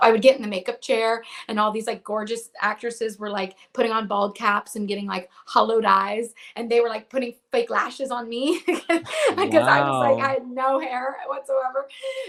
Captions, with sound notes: I would get in the makeup chair and all these, like, gorgeous actresses were like putting on bald caps and getting like hollowed eyes. And they were like putting fake lashes on me (laughs) because I was like, - Wow. I had no hair whatsoever.